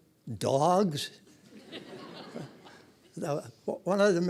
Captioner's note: audience laughing